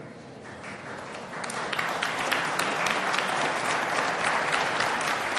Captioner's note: audience applauding